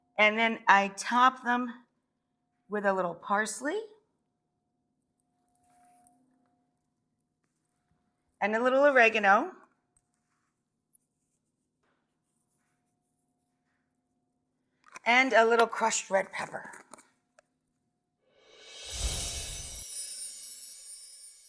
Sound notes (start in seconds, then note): 16.2 unscrewing cap; 18.5 magical sound